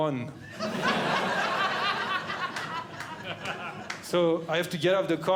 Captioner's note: audience Laughing